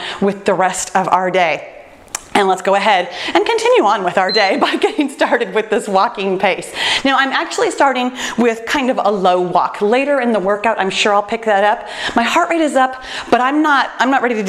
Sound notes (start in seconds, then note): 4.2 timer beeps; 5.1 chuckles